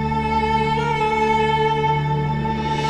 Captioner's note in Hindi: none